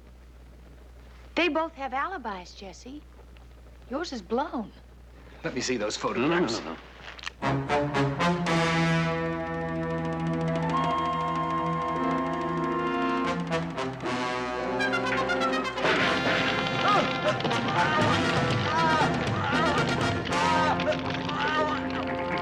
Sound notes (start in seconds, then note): 15.8 grunting, yelling